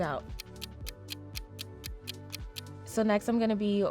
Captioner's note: clock ticking